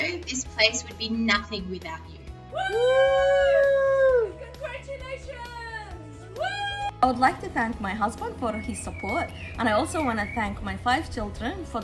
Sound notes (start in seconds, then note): 2.5 all cheering; 6.1 cheering